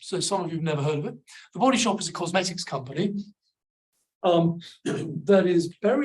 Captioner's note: clears throat